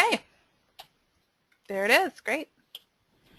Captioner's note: voiceover